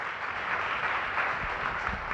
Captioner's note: audience applauds